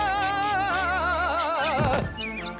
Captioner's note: thud